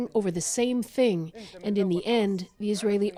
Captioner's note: speaking alternate language